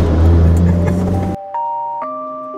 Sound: relaxing music; laughing

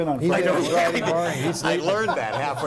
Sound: laughing

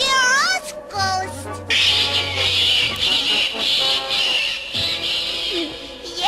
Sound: shrieking; gulps

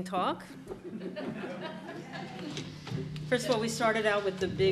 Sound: audience chuckling

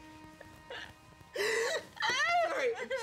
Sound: crying

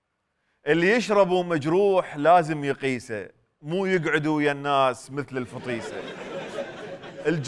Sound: poetically

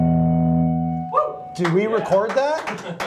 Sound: studio cheers and claps

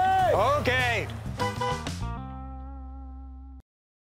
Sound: honks horn

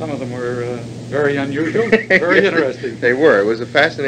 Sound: laughs

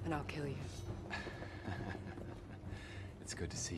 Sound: Loki giggle

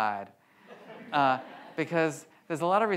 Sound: audience laughs

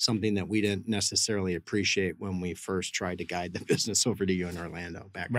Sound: laughs

